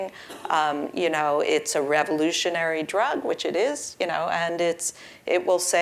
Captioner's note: cough